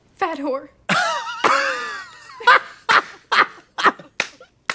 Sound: blonde women guffaw and clap

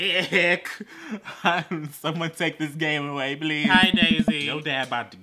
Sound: nervous laughing

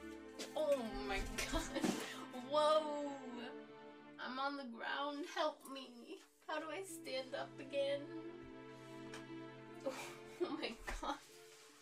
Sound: laughter

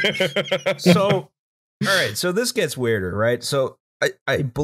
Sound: laughter

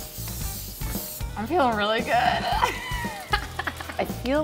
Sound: laughs

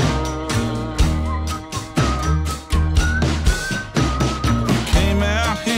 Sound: whistles

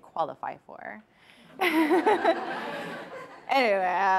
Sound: chuckles

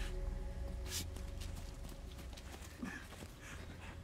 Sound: person panting

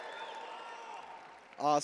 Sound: attendees wooing

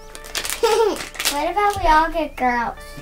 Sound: laughing

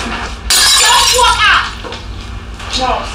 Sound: glass tinkling

